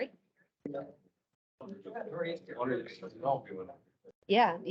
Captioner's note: indistinct chatter